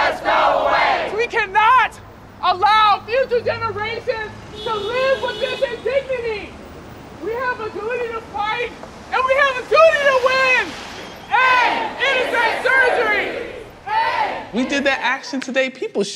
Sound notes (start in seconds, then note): 11.3 chanting